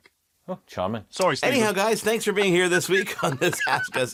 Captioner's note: laughs